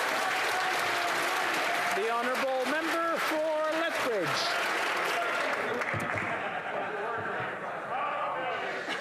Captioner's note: yelling